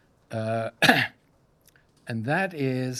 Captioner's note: coughs